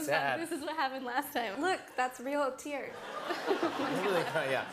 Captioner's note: laughter